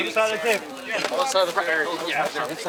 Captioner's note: indistinct chatter